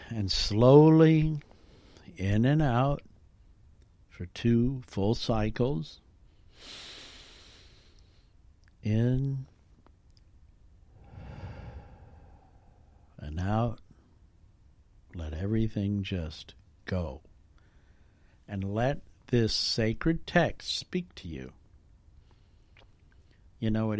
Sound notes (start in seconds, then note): 6.4 deep breath; 10.9 out breath